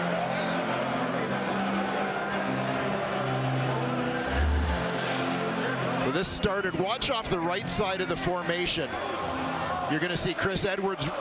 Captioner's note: crowd Noise